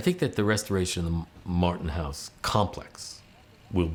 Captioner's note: none